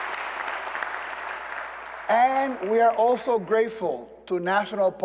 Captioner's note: applause